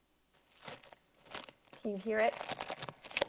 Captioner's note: plastic wrap sticking